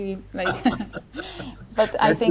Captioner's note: both laughing